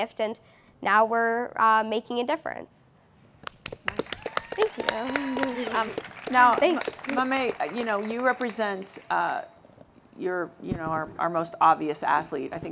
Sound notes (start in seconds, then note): 3.6 applause